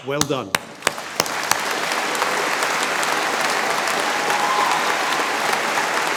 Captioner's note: audience applauds and cheers